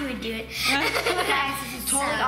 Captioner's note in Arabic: يضحك